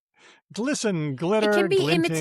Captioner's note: laughs